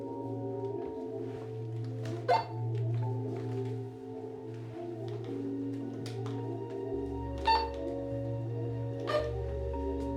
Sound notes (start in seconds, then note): 2.3 walkie-talkie beeping